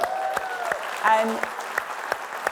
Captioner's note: host and audience clapping